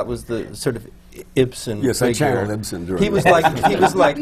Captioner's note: laughter